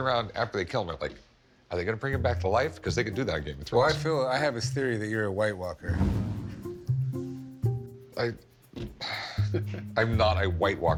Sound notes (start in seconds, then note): 9.0 sighs